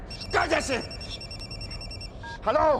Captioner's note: cell phone rings